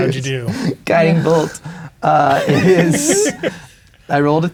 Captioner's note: laughing